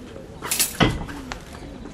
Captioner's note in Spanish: chocan las espadas